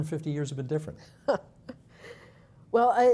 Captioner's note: chuckling